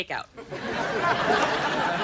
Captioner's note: audience laughing